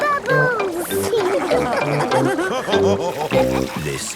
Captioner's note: all laughing